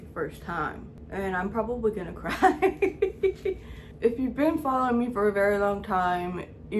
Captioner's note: laughs nervously